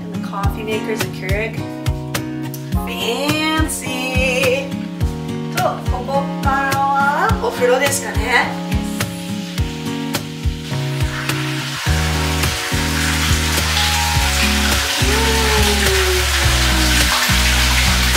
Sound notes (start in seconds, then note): 5.6 speaking Japanese; 11.0 water rippling; 15.0 cheering